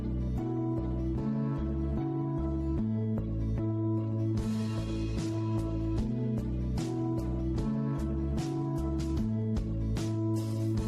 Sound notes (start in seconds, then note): none